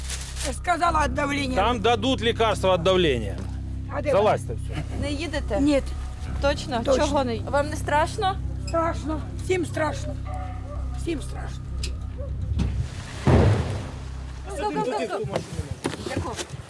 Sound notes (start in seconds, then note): 2.0 dark music; 12.5 bang